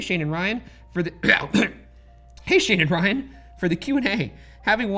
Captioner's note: clears throat